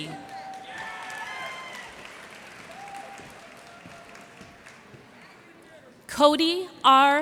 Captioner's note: cheers and applause